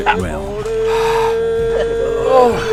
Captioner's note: exhales sharply